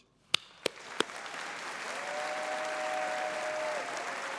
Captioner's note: audience applauding